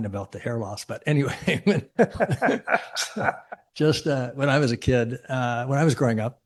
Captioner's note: chuckles